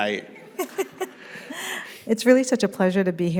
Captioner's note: chuckles